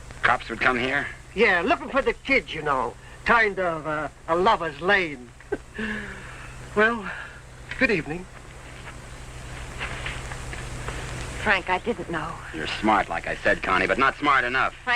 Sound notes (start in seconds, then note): 5.6 man chuckles